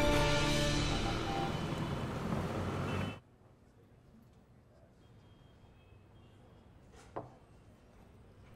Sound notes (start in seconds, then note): 0.0 traffic sound